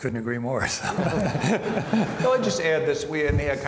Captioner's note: all laugh